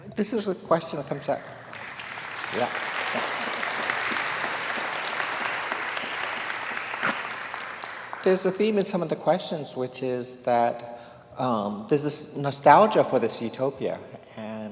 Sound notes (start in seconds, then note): 1.6 students applauding